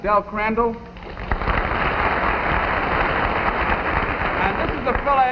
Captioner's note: audience clapping